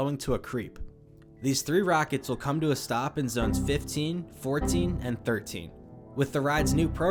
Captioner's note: Windows error sounds